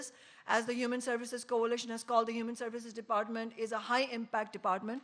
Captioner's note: none